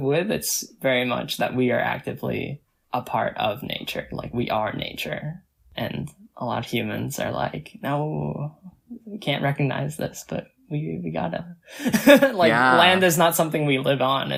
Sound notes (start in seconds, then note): 11.9 laughs